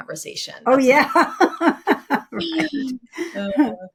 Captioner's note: laughs